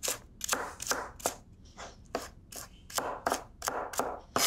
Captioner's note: knife chopping